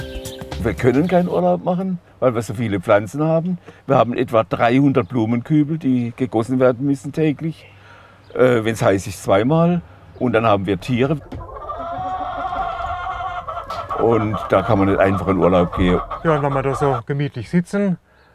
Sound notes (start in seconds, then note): 10.9 cackle